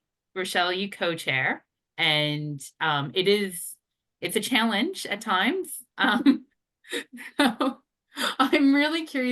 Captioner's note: laughs